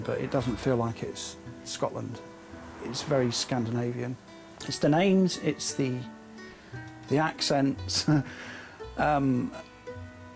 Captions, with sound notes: but it doesn't feel like it's Scotland. (traffic droning) It's very Scandinavian. It's the names, it's the accents.